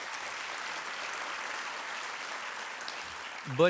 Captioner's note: applause